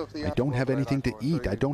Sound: speaking non-english

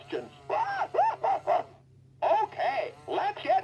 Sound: laughing

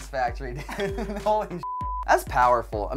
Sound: ding; beep

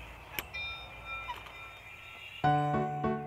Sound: doorbell rings; jaunty upbeat music

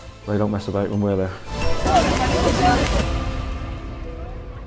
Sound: men yelling

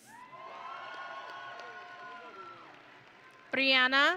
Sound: audience and graduates cheering

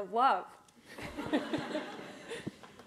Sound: laughter

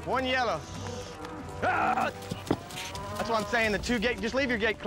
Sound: hoof beats

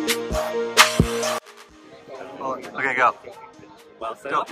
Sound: people chattering

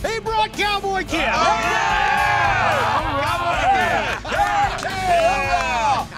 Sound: cheering

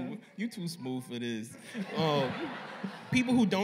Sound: laughter

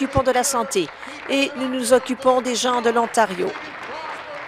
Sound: applause

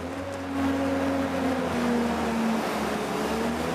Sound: engine revs

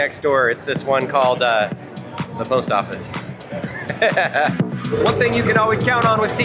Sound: laughs

